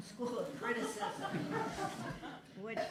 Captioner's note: laughter